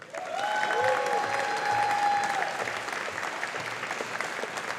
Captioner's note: audience applauding